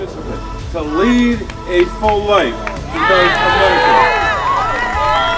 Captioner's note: cheering